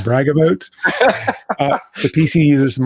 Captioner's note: both laugh